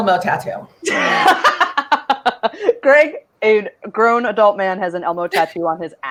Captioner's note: laughs